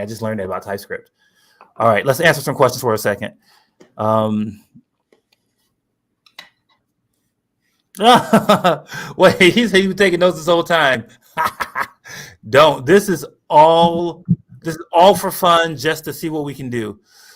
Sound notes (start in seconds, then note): 8.0 laughter; 11.3 laughs